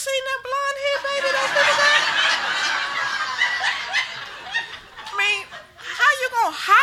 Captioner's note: group laughing